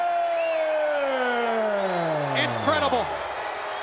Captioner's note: crowd cheering